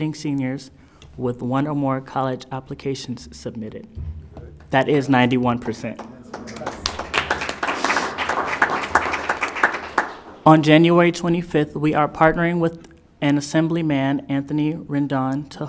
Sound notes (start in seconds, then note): 5.6 applause